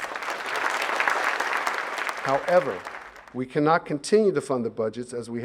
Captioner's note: applause